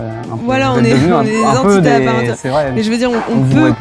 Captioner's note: laugh